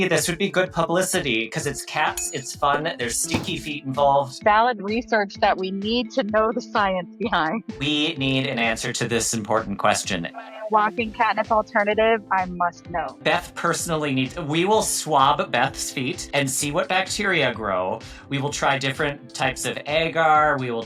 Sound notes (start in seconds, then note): 2.0 text chiming; 2.2 text thudding; 2.6 text plopping